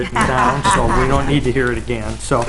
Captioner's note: laughter